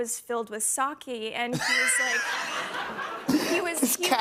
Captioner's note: laughter